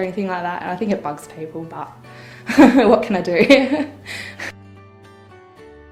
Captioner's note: laughs